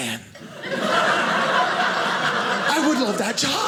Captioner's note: audience laughing